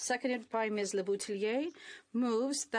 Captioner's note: speaking in French